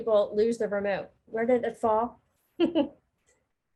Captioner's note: laughing